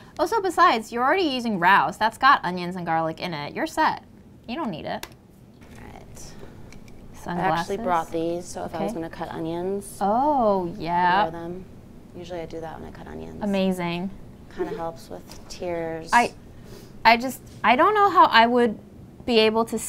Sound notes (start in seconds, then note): 14.0 laughs